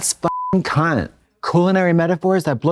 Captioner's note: beep